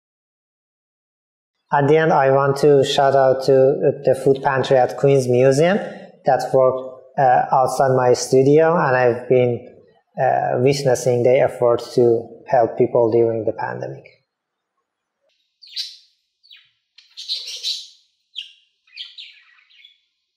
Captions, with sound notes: And the end, I want to shout out to the food pantry at Queens Museum, that's worked outside my studio, and I've been witnessing efforts to help people dealing with the pandemic. [birds chirping]